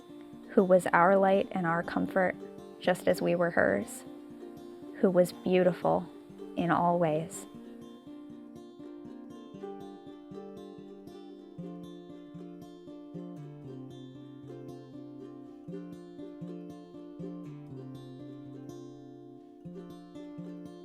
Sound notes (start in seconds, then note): 8.1 quiet background music; 8.1 video clip plays with no audio